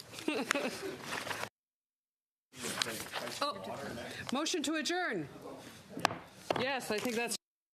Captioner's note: laughter